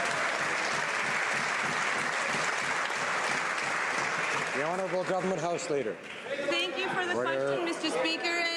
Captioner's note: some Applause